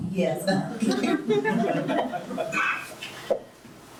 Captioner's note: laughs